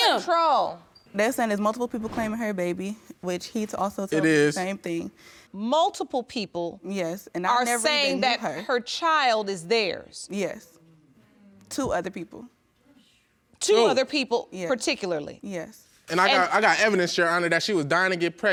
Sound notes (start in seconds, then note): none